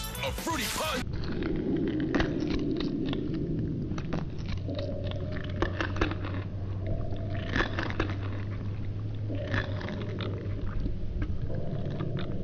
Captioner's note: ominous cereal crunching noises